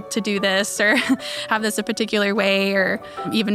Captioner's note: chuckles